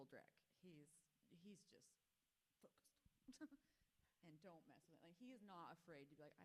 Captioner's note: laughs